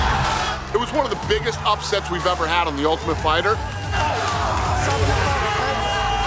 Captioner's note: cheers and applause